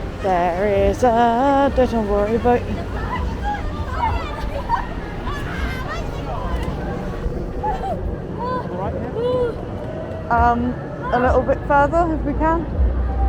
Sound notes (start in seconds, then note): 3.5 excited yelling